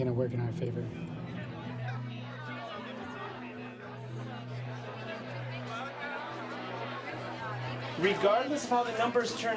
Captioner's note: indistinct crowd chatter